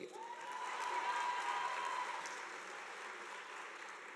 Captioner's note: audience applauding